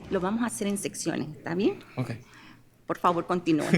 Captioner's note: speaking in spanish